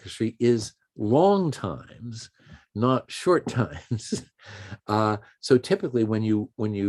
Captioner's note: chuckles